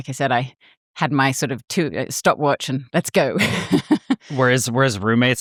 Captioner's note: laughs